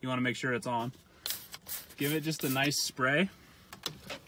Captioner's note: spraying